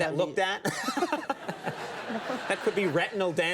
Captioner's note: laughs; audience laughing